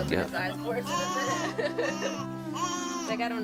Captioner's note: crying